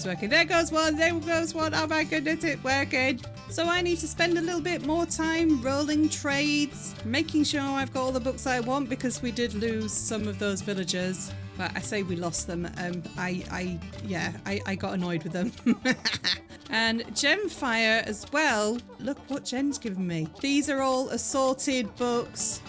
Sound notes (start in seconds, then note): 15.2 laughing